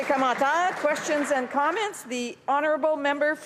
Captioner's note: applause